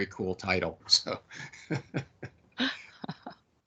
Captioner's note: laughing